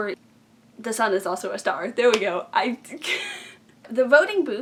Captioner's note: laughs